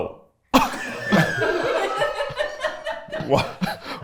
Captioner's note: everyone laughs